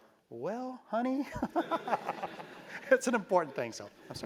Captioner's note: laugh